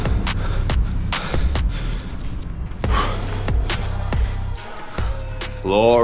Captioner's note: heavy breathing